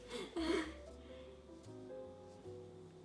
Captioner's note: laughs; soft electronic music